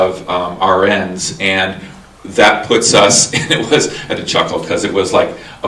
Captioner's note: chuckles